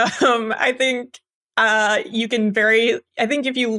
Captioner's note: laugh